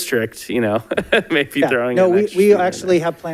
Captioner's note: laughs